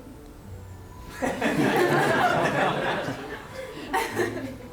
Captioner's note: laughter